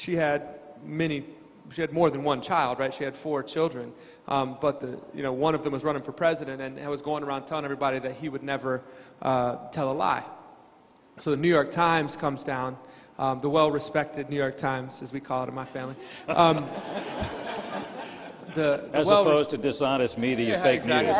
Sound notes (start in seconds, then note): 15.9 crowd laughing